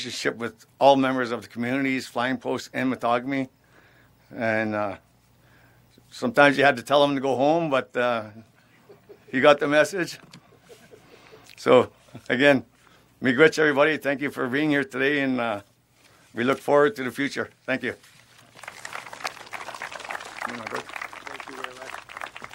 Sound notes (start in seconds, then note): 10.4 laughter; 18.4 applause